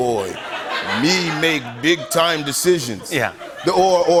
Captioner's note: laughter